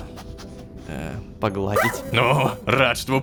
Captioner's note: robodog barks